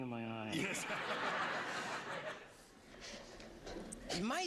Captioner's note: laughter